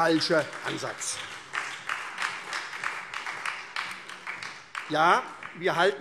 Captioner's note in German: Beifall SPD und Freie Demokraten